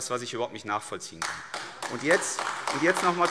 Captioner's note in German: Beifall AfD